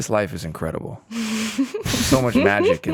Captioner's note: all laughing